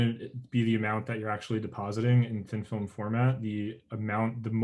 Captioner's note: murmurs